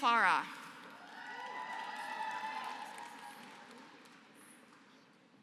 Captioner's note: applause